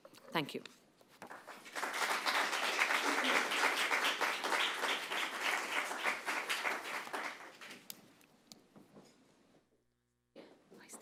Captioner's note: applause